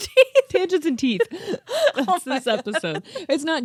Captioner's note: laughing